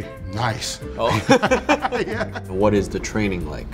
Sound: laugh

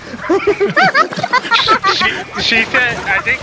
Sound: laughter; laughing

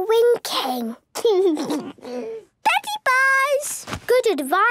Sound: laugh

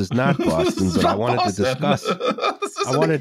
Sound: laughing; laughs; laughing

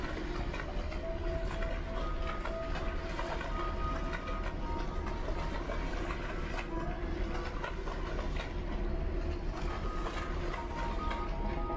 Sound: splashing water

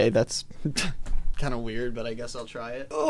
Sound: scoffs

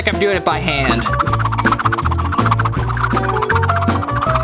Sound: swooshing noises

